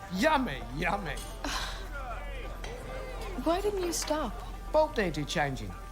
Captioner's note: sighs